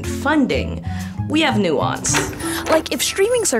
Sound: lock clicks

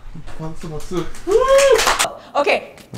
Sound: clapclapclap

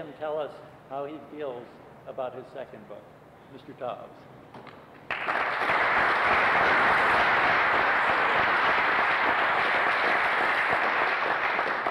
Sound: applause

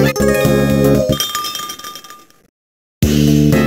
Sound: tinkle tinkle

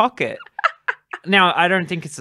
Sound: laughter

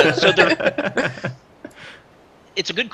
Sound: laughter

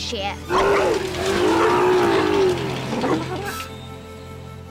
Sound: loud motor starts

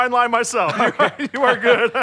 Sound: awkward laughing

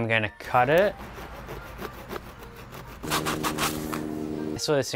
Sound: scratching

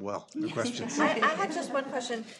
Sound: laughing

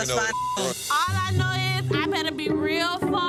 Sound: beep

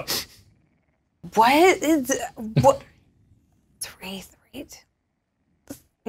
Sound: stammering

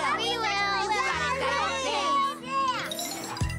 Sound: overlapping excited chatter

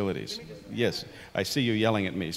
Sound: voiceover

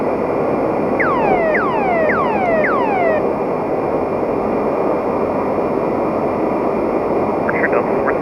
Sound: emergency beacon signal

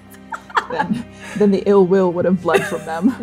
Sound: laughing

